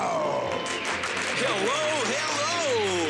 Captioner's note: applause